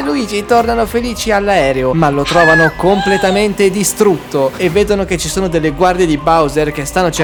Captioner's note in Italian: urlo